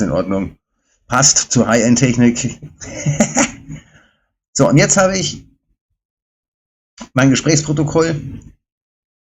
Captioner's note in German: gelächter